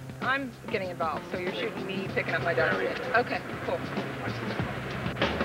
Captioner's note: laughing